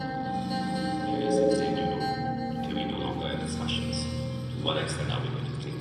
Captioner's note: A distorted version of KOR KOR's final monologue plays